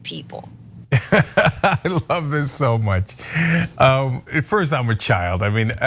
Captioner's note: laugh